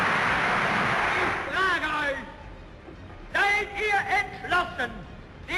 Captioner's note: cry: "Yes" Applause